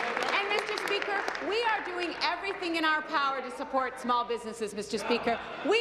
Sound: applause

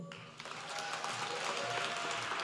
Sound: applause

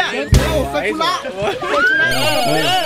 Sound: screams

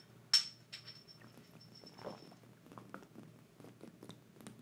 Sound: Jenelle slurping

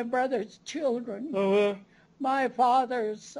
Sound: non-english speech

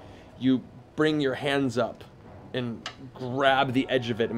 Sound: none

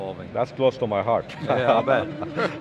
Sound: laughs

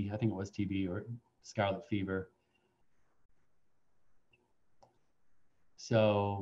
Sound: silence

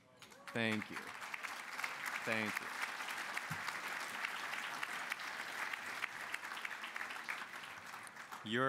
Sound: applause

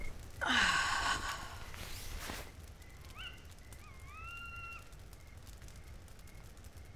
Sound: woman sighs; bird screeches

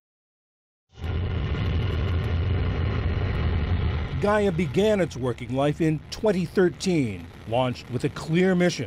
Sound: voice-over

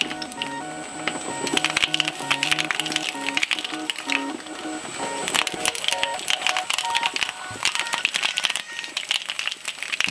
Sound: crushing noises

